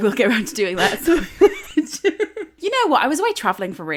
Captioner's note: laughing